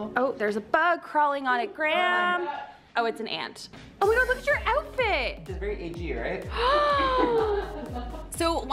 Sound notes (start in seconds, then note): 6.5 gasping; 6.6 female Team Member laughing